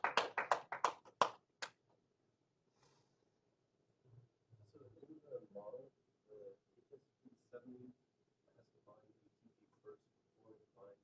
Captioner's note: applause